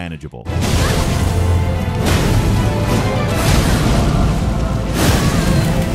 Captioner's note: weapon slashes, dramatic music